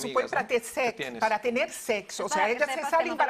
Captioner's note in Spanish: hablan en portugués